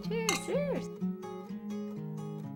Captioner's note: clink!